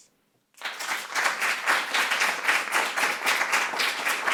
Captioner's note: applause